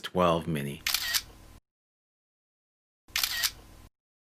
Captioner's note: camera shuttering